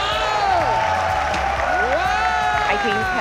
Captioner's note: cheering, applause